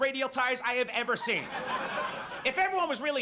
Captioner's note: audience laughs